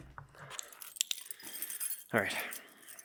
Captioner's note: keys clanging